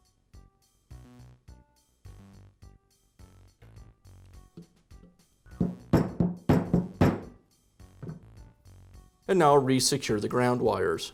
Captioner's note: hammering